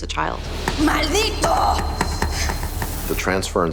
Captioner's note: woman speaking Spanish